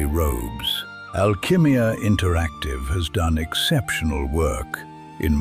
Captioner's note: thoughtful